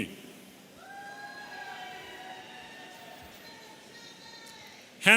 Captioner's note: audience cheering